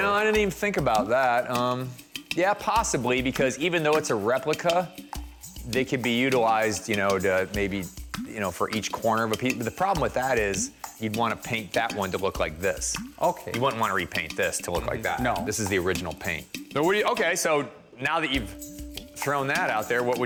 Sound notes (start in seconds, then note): none